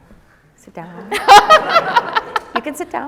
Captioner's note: laughing